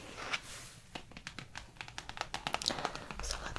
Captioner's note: tapping